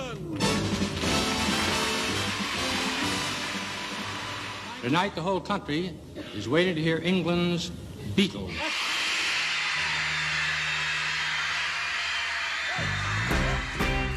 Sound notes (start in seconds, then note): 8.4 crowd cheering vigorously; 12.8 rock music